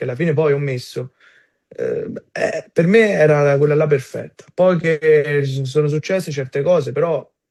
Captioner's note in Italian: schiarire la voce